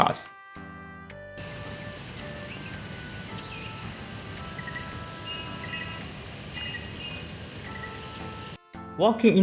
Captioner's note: walking